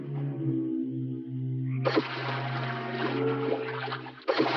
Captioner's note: water splashing